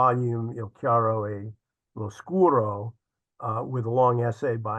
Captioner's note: speaks Italian